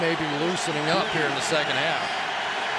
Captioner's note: crowd cheering